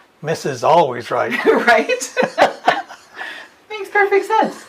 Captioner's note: laughs